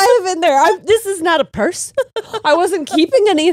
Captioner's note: laughs